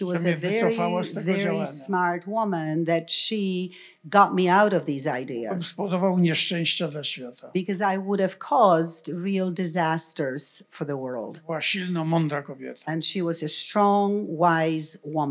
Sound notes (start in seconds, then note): 5.7 foreign language; 11.6 foreign language